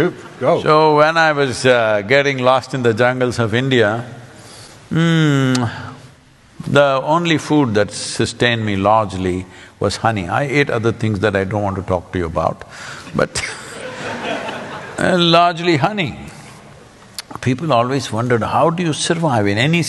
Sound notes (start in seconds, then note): 13.4 laughter